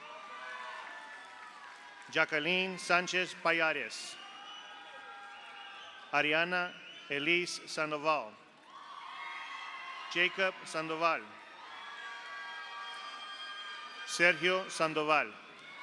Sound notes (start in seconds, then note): 0.0 audience applauds; 0.0 audience cheers; 4.8 audience applauds; 8.6 audience cheers; 8.6 audience applauds; 11.5 audience cheers; 11.5 audience applauds; 15.4 audience cheers; 15.5 audience applauds